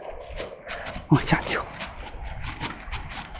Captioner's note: panting